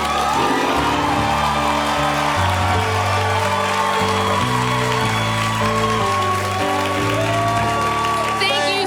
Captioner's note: applause